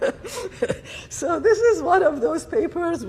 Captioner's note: laughter